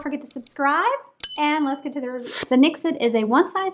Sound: bell ringing

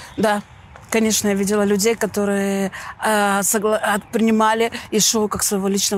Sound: speaking in foreign language

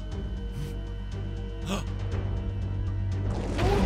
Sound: gasps

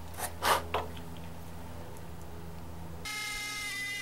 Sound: blows; saw buzzing

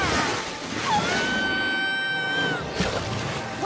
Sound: screaming

